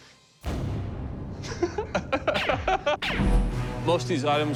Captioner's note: laughs